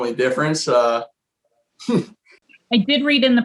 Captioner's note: laughs